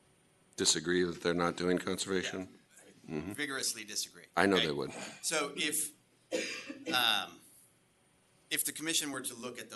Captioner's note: clears throat